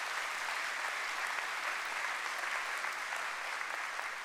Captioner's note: applause